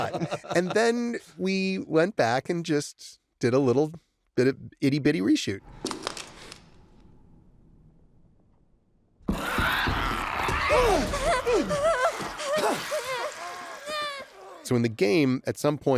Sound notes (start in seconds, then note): 8.9 ellie whimpering; 9.3 clickers screeching